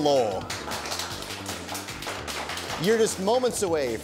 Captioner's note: audience applause